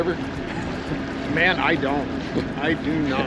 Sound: chuckling

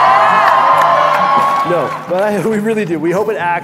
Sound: crowd cheering

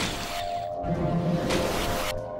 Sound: splashing

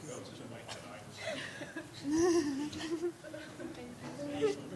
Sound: chuckling

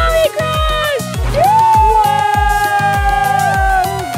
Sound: cheering

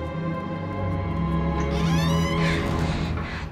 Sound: door creaks

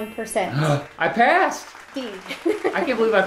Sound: gasps

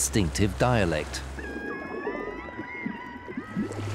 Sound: orcas cry

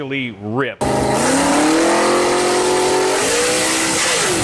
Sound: engine roaring

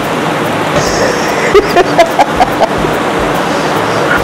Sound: laughs

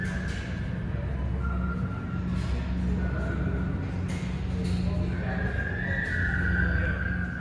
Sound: gradually louder muffled engine noise

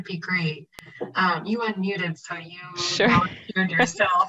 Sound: laughs

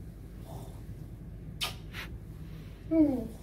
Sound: kisses

